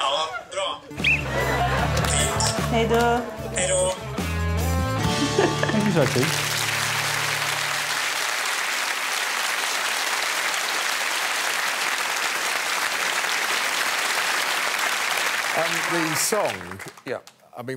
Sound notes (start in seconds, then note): 0.2 speaking Swedish; 5.1 laughs